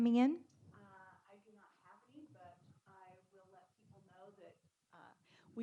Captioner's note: speaking faintly